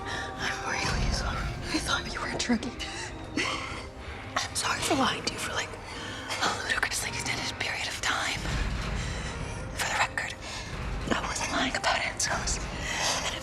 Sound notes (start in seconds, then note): 0.3 whispering; 3.0 both laugh; 4.4 whispering